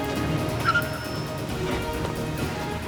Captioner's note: brakes screech